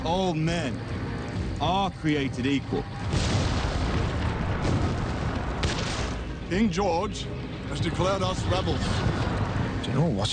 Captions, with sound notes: - All man are created equal. (cannonfire explodes) (guns fire) - King George has declared us rebels.